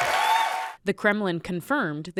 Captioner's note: cheering